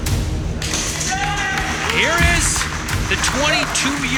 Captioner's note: people cheering